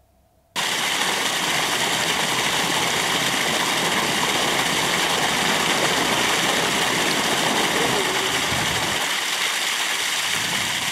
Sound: water splashing noise

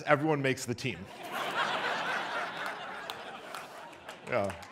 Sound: audience laughs

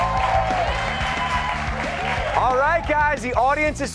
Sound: cheers and applause

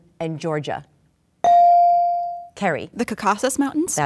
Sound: dinging

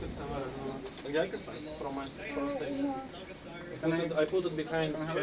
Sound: people chattering

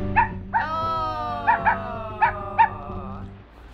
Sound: dog barks

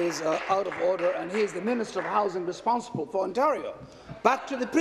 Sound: applause

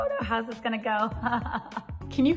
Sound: laughs

